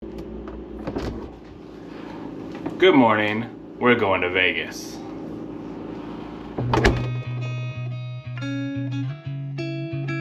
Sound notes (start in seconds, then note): 0.3 machine humming